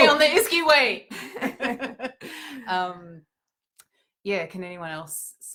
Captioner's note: both laughing